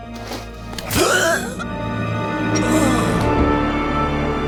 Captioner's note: screaming